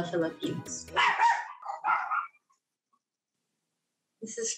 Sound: dog barks

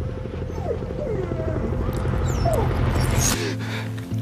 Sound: sound of dog whimpering

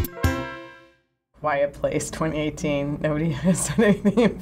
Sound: laughs

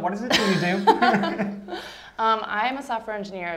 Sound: laughter

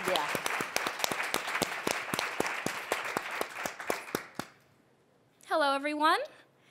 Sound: applause

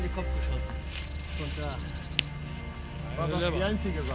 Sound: gentle music; chattering

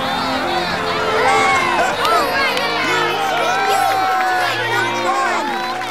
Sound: cheering

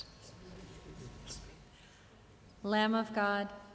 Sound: congregation whispering peace greetings

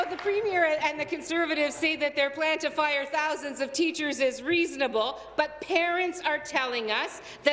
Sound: applause

